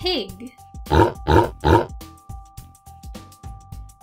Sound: pig grunting

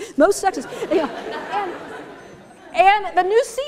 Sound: laughter

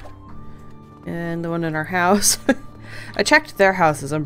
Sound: laughs

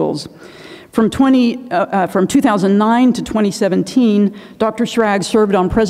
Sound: inhales

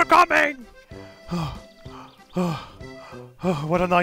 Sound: panting

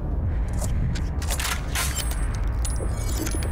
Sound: dramatic music; gun clicks

